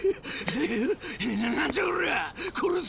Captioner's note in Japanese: 笑い